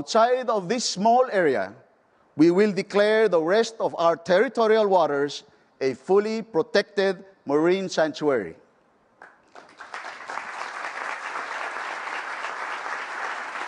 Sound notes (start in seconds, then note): 9.2 applause